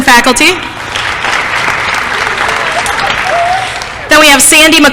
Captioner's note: applause